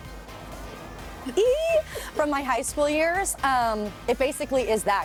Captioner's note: squealing